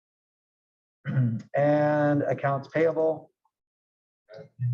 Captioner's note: cough